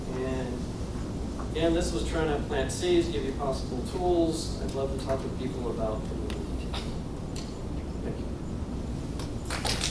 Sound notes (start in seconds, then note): 6.0 faintly speaking; 9.4 audience applauding